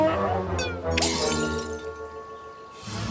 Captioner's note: smashing glass